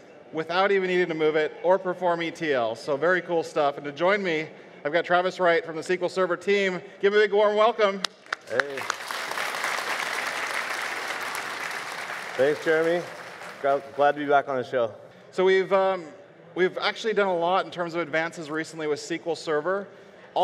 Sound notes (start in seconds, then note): 8.3 audience applauds